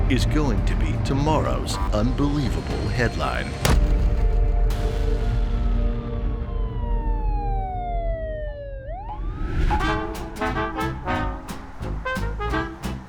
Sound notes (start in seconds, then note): 3.8 tense music; 5.6 siren wailing; 9.8 upbeat jazz music